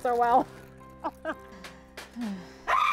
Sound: woman screaming

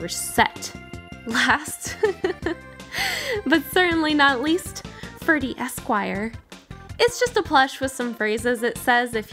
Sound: laughing

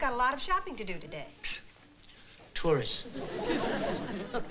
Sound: scoffs

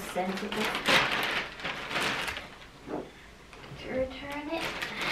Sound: loud plastic noises

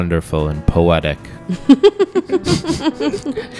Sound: laugh

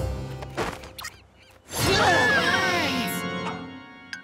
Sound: screaming

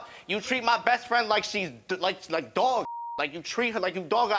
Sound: beep

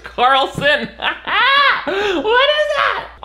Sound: Nick laughs

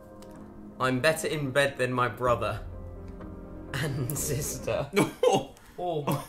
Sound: laughs

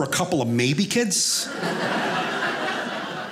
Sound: audience laughing

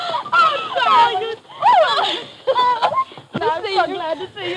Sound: women squealing

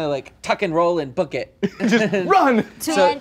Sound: laughing

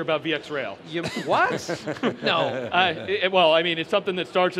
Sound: laughter

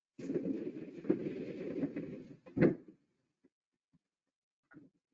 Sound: rumbling and crackling

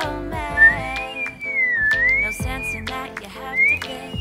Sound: whistle~

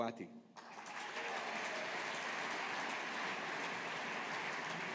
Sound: audience applauding

